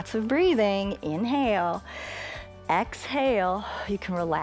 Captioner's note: inhales